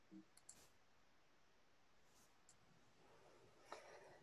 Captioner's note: mouse clicking